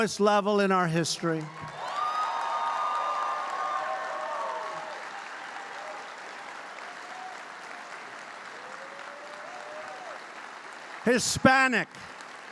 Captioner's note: applause